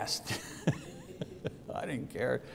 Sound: laughs

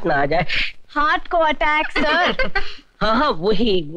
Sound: laughing

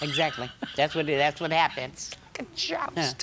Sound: laughing

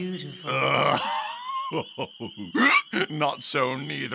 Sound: Bottom laughs

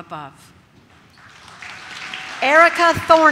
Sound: audience claps

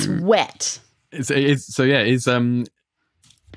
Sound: stammers

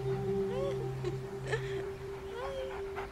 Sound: laughter

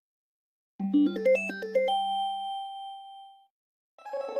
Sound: alternate 16-bit chime plays; 16-bit chime playing

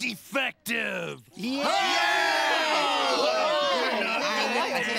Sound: cheering

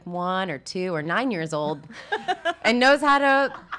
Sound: laughs

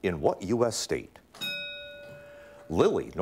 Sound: ding

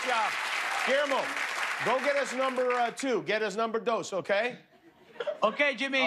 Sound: cheers and applause

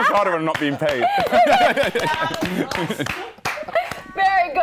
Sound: laughter

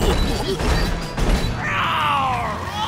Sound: roaring

